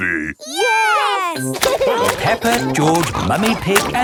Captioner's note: laughing